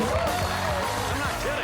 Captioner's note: cheers and applause